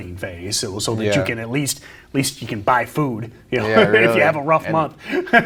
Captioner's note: giggles